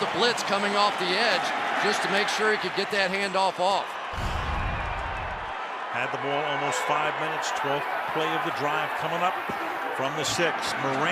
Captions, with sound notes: Knowshon Moreno, touchdown, Denver. [cheering]